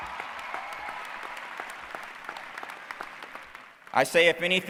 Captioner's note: cheering